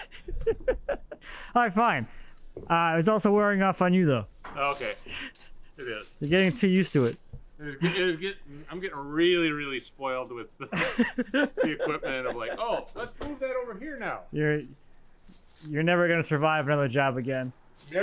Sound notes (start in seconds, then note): 0.0 chuckles; 10.7 both chuckling